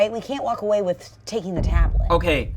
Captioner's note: thump resounds